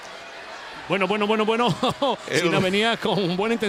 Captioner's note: laugh